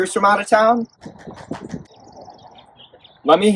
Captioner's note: only the old lady claps